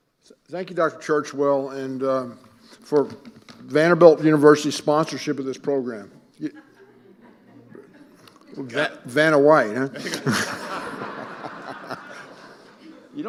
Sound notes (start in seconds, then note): 6.5 audience laughing; 9.8 all laughing